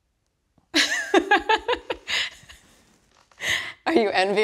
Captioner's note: laughs